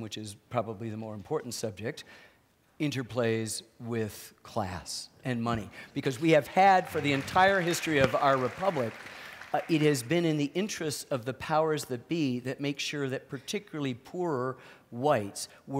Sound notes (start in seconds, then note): 6.6 applause